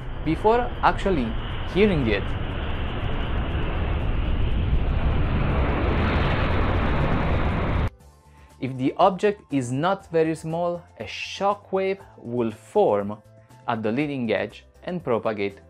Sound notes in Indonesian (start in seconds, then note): 0.5 suara petir; 3.8 suara petir